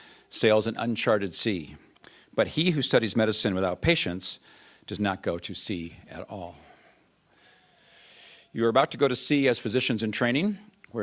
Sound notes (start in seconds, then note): none